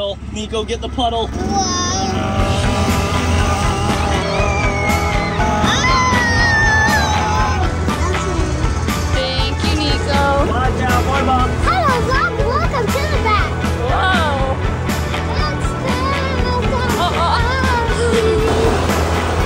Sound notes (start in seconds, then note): 2.1 people screaming; 3.1 grunting; 15.6 singing indistinctly